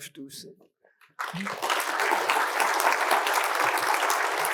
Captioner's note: students clap